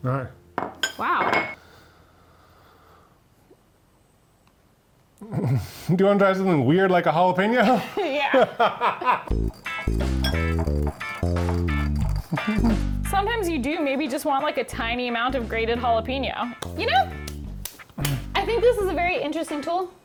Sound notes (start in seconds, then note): 0.6 plate clinking; 3.4 sighs; 7.6 laugh; 9.9 light music; 17.1 clapping hands